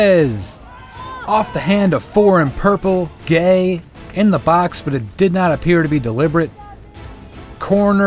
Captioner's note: cheers